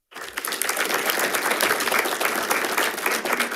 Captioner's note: group applauds